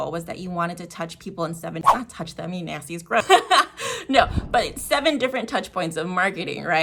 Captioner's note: giggle